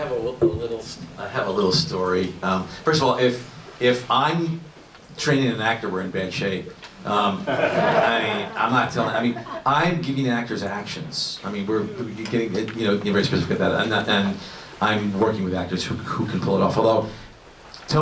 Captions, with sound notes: -- I have a little story. First of all, if I’m training an actor, we’re in bad shape. [Laughter] I'm giving actors actions. To be very specific about that. I’m working with actors who can pull it off, although—Tony